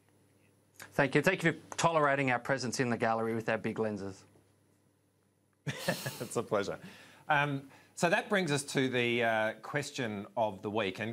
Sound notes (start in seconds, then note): 5.7 laughs